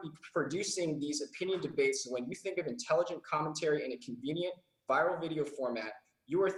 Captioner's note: none